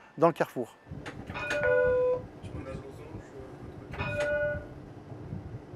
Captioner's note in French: ding, ding